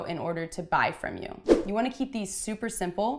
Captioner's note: whooshing